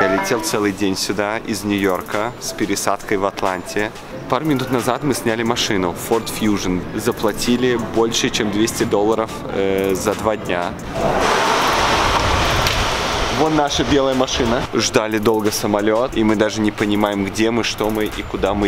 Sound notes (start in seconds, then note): 0.1 speaking in foreign language; 9.9 doors whooshing; 10.9 speaking in foreign language